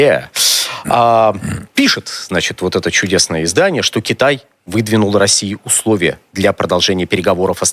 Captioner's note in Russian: откашливается